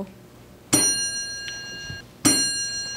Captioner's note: ding